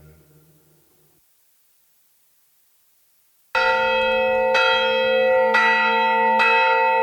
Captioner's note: bells ringing